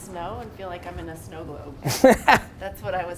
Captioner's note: Gary laughs